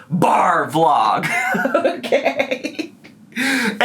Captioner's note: laughs